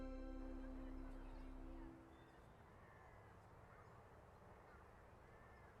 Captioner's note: students chattering